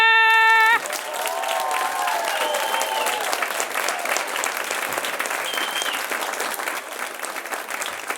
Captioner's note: audience applauding